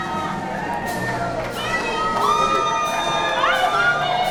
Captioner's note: voice from the crowd